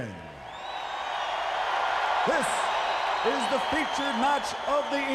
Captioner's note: crowd cheering